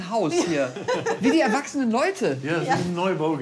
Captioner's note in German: Lachen